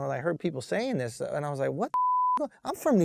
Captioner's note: beep